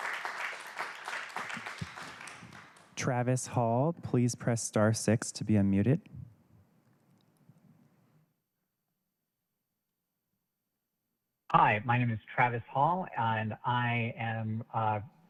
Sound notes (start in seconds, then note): 0.0 applause